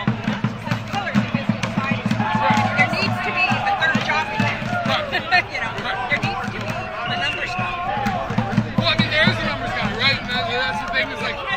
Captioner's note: whistle